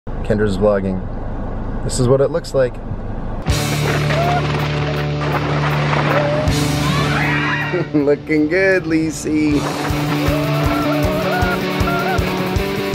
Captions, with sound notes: - Kendra's vlogging. This is what it looks like. (chuckling) Looking good, Lisey. (energetic rock music)